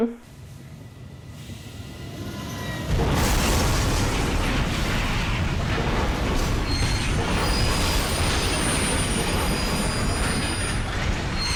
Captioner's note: train crash sounds